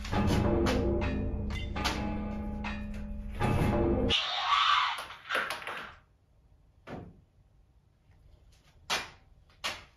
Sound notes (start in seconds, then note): 4.1 monster scream